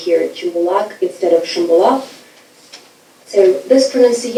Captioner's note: speaking foreign language